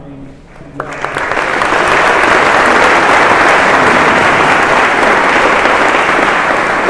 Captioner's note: applause